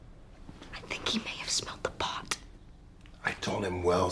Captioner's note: WHlSPERlNG